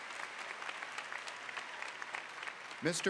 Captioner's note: applause